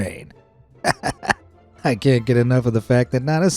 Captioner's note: laughs